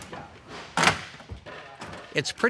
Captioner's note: breaking door